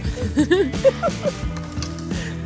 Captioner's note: both laughing